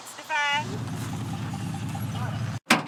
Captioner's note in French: Bruit de moteur